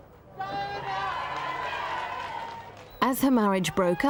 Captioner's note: crowd cheering